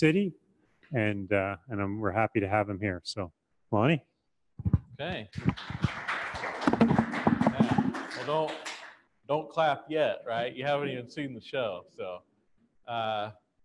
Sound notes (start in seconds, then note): 5.3 audience applause